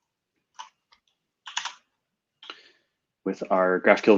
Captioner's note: typing